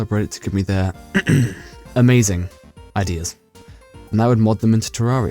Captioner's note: cough cough